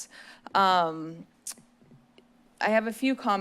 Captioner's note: smacks lips